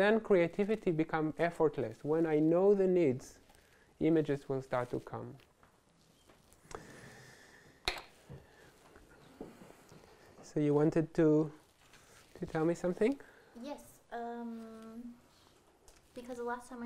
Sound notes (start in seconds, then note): none